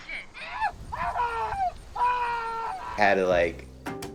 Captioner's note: actor screaming